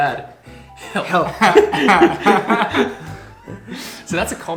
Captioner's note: laughs